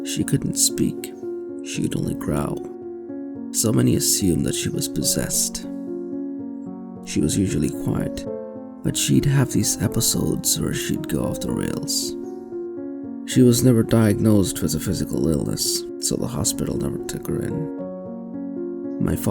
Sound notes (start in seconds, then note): none